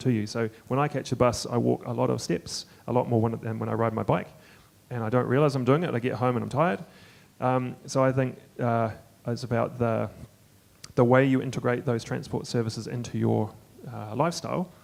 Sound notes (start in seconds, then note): none